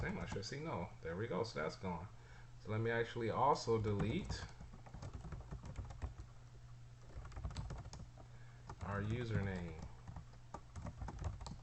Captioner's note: typing sounds